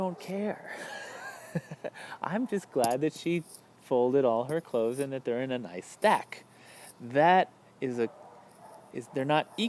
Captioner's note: laughs